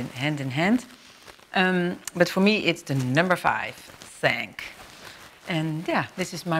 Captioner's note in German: auf französisch